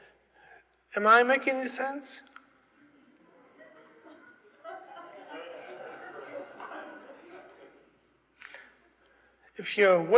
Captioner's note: laughter